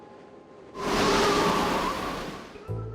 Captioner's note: whoosh